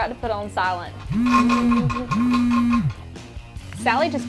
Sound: cell phone vibrating

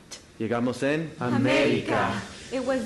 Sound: speaking Spanish

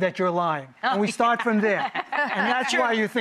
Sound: laughs

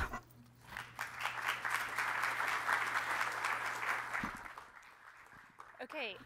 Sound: applause

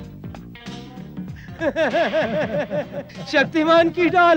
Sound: laughs

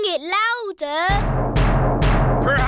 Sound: banging

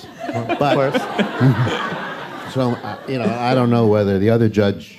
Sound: laughter

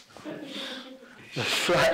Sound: laughs

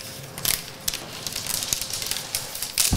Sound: rustling

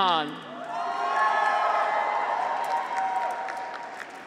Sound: graduates cheer

